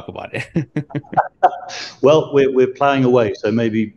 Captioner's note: laughs